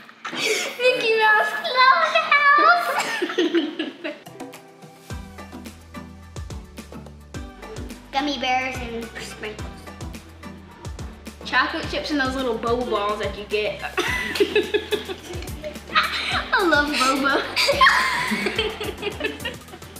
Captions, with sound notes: Mickey Mouse club house. Gummy bears and sprinkles. Chocolate chips in those little boba balls that you get. (Laughter) I love Boba. (Laughter)